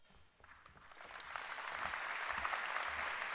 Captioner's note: applause